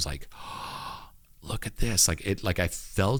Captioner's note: gasps